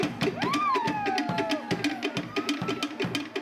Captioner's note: polynesian drumming; yelling